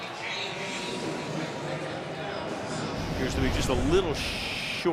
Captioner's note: pa announcement